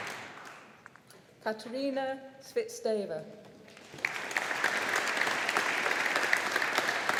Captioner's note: audience applauding